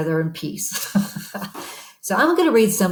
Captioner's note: laughs